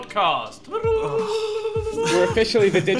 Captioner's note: ululating; sighing